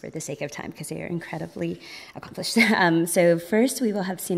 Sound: chuckles

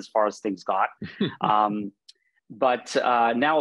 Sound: laughing

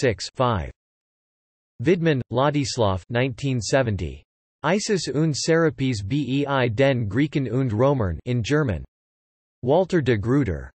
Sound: in German

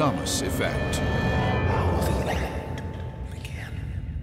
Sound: creepy whisper

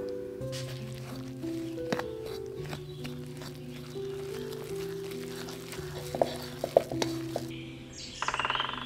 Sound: wet mixing sounds; birds chirping

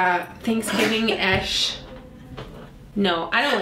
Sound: laughs

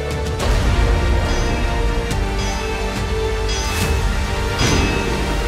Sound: hammer on anvil

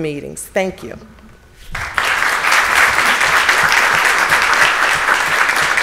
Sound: audience applauds

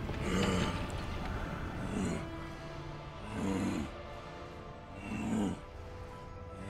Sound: growling

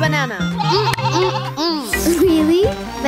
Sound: bleating

